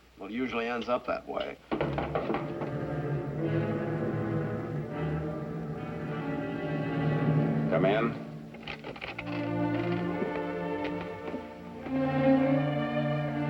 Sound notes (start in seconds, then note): 1.7 knock on door; 2.0 ominous music plays; 9.9 romantic music plays